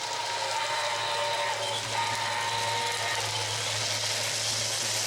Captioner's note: whistle